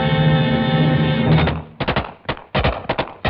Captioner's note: gunfire